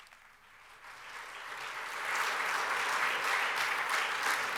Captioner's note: audience applauds